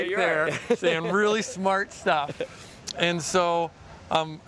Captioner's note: laughing